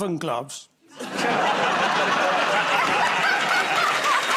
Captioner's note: laughter; applause